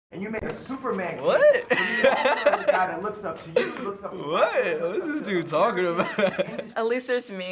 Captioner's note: laughs